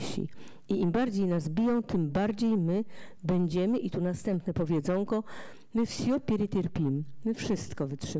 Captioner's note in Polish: fraza po rosyjsku